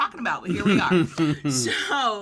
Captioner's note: laughs